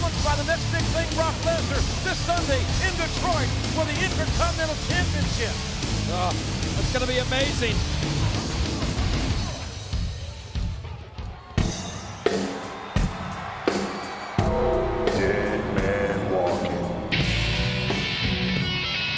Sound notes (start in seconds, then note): 11.6 rock music plays; 11.9 crowd cheers